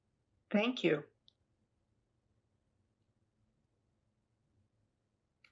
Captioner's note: pauses 6 seconds